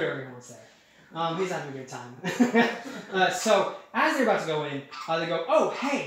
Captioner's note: chuckling